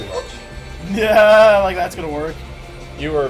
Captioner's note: nervous laugh